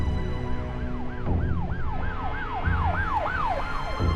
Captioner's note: siren wailing